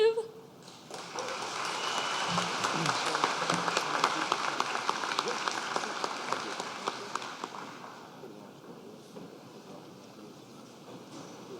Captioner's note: applause